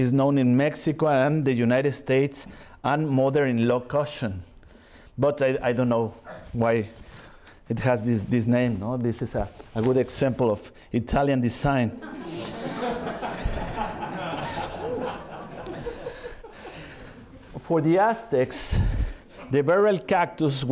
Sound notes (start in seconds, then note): 11.9 laughter